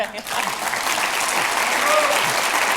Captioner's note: audience applauding